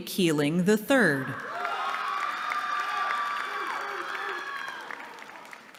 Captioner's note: cheering